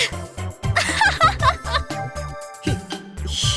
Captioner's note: laugh